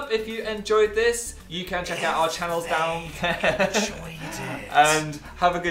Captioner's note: whispering